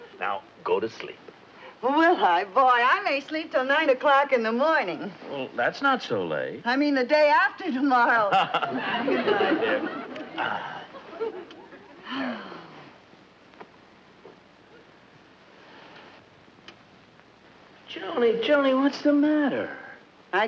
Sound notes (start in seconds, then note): 8.3 Brad laughs; 10.4 Brad sighs; 12.0 Joan sighs